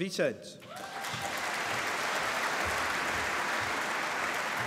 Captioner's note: applause